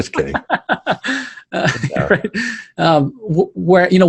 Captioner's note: laughing